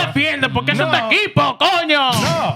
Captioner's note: speaking In Foreign Language